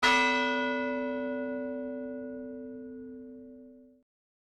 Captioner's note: bell sounding